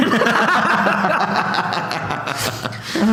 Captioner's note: laughs